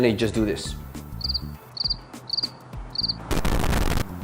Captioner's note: crickets chirping; fire crackling